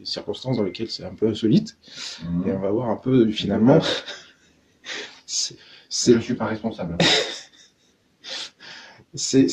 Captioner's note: laughs